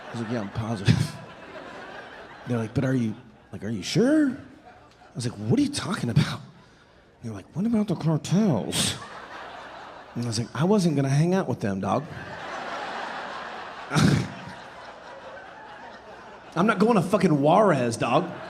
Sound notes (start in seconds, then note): 0.0 audience laughing; 8.7 audience laughing; 12.2 chuckling